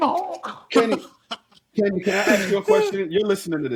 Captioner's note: laughing